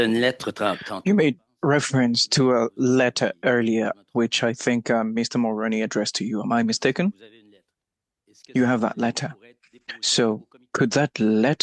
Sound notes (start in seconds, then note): 6.8 speaking French